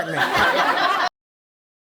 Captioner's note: audience laughing